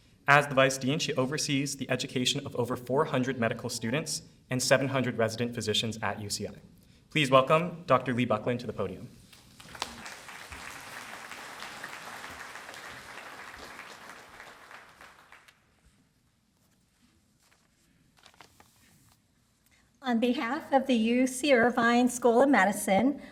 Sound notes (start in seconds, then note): 9.4 applause